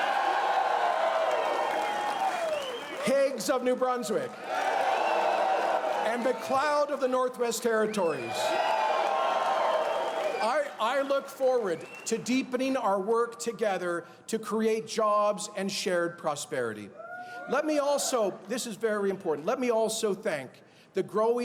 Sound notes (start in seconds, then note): 0.0 cheers and applause